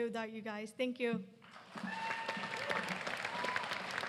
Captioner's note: applause